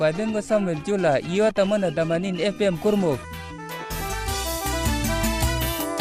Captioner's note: male announcer’s voice on the radio in local language